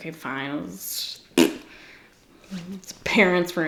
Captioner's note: blows a raspberry